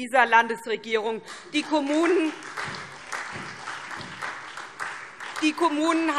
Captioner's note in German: Beifall SPD